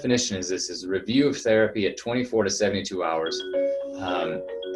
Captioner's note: ringing